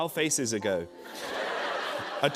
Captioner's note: laughter